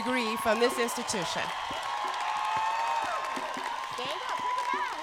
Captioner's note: cheers and applause